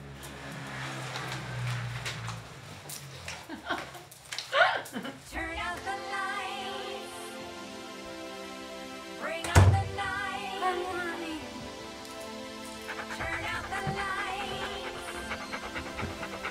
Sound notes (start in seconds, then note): 4.4 Julie laughs; 12.6 Ramani pants